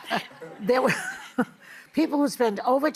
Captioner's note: laughing